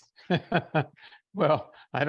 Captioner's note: giggles